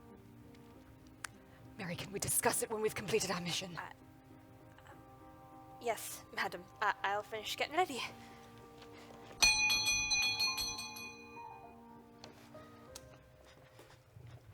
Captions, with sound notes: Mary, can we discuss it when we've completed our mission? - Ah... Yes, madam. I'll finish getting ready. (doorbell rings)